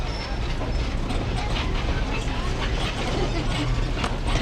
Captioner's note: tram clattering